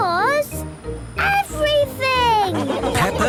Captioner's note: laughing